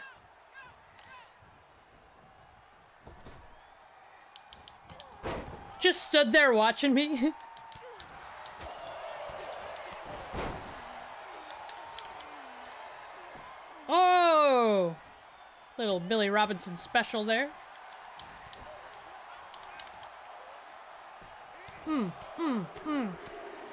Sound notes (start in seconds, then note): 0.7 applause; 6.9 laugh; 16.9 applause